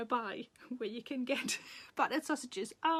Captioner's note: Sarah laughs